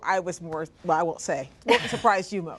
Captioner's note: laughter